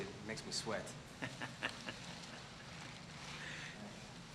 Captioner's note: laughs